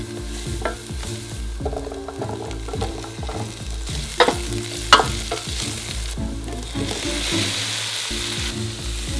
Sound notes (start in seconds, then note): 6.7 food sizzling